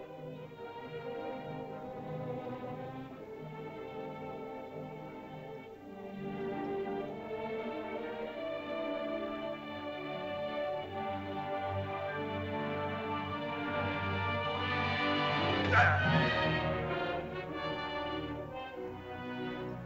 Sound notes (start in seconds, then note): 5.6 soft dramatic music; 15.5 Akhoba grunts; 15.6 suspenseful music